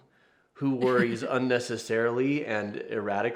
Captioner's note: chuckles